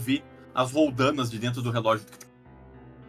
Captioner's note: click